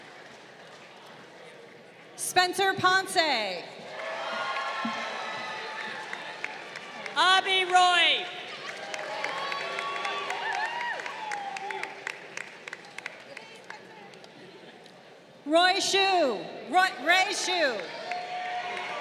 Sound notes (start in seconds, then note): 4.0 crowd cheering; 8.5 crowd cheering; 17.6 crowd cheering